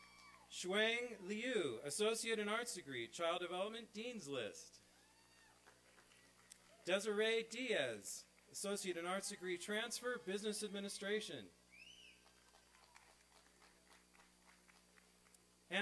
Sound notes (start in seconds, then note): 5.0 cheering; 12.2 applause and cheering